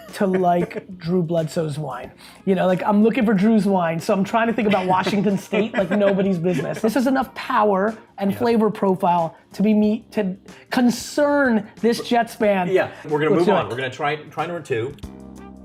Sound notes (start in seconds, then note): 0.0 laughing; 4.5 laughing; 15.4 jazz music